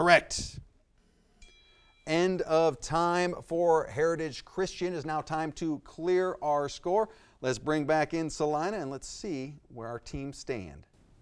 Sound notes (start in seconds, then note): 1.4 timer dings